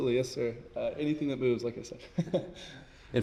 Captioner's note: chuckles